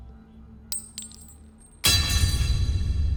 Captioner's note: coin tinkling; sinister music